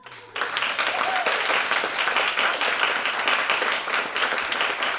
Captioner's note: audience clapping